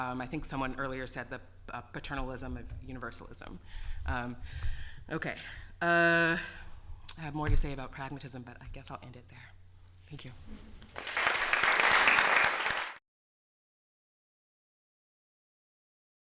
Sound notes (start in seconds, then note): 10.9 applause